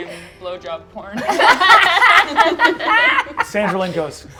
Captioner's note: laughter